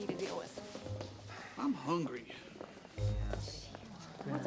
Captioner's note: sighs